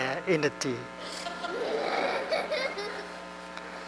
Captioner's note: laughter